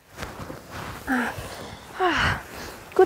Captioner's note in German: Wohliges Seufzen